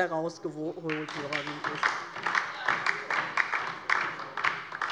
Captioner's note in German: Beifall DIE LINKE